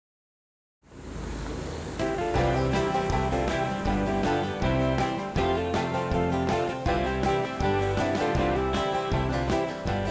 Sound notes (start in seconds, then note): 0.9 sound of bees